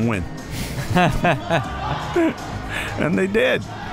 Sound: laughs

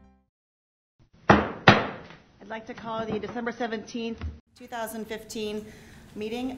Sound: gavel

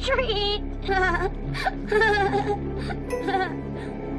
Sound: laughing eerily

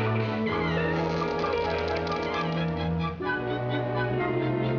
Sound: creaking

